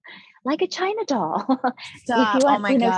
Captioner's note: chuckling